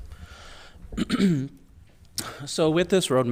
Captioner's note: clearing throat